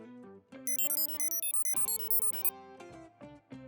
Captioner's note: beeping